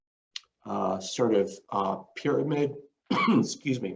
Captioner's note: coughs